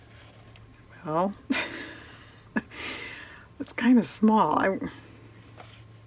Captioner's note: laughs